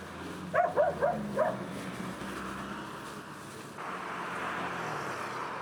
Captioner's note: dog Barks